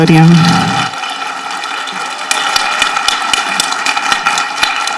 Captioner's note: people applauding